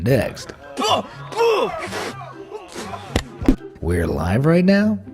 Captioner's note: disgusted shriek